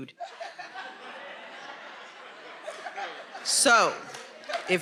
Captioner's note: attendees laughing